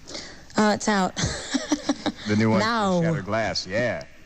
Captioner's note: laughs